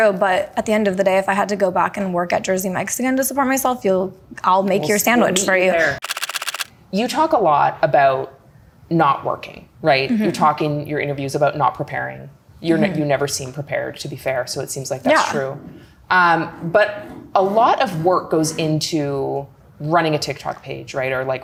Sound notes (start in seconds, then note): 6.0 camera clicking